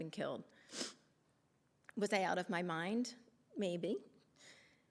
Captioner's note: sniffling